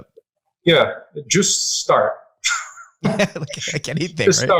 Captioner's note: laughing